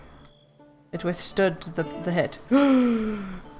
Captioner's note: gasp